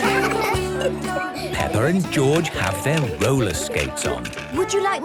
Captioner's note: laughter; giggling